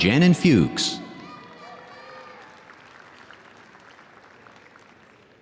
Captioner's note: audience applauding